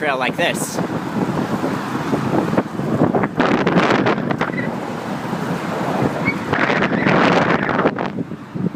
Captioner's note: wind noise